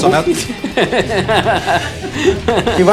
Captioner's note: laughs